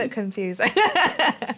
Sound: laughter

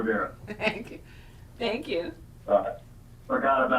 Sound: laughs

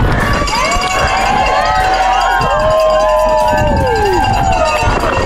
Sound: cheering sounds

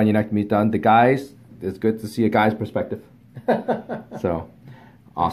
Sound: patient laughs

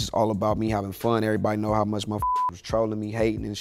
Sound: beep

